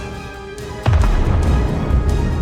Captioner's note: boom